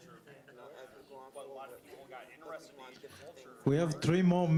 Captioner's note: student chattering